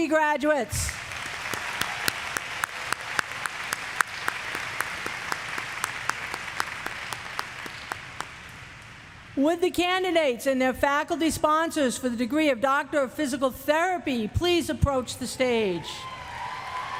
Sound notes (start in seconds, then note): 0.8 applause; 6.1 cheers; 8.0 applause